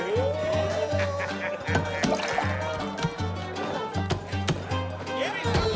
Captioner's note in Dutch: mensen kletsen; vrolijke muziek gaat door